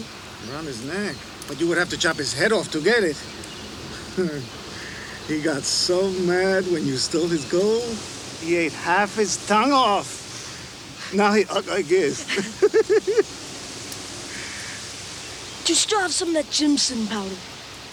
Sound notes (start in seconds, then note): 3.9 Crecencio chuckles; 10.9 giggles